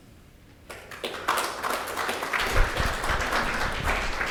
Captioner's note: audience claps